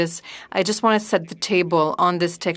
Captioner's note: speaking French